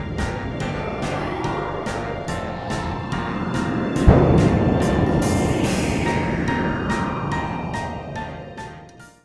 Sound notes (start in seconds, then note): 0.2 upbeat music; 2.1 wind blowing